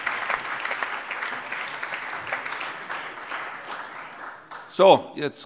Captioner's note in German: Allgemeiner Beifall